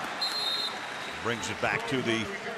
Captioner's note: whistle